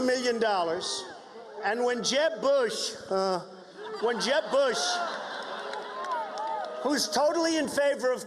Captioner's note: booing